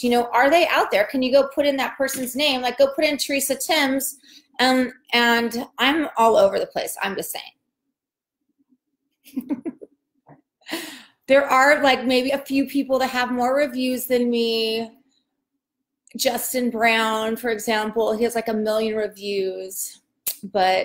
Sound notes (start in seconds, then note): 9.3 laughs